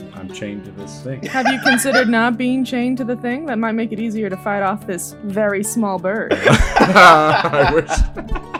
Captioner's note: laughter